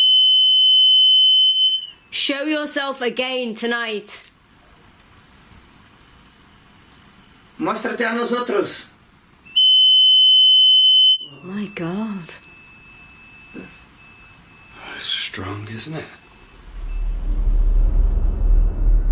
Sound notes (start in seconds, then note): 8.0 speaking in foreign language; 10.3 beeping